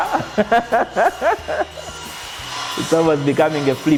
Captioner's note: laughs joyfully